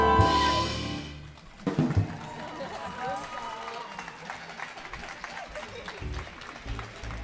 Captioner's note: audience cheering and applauding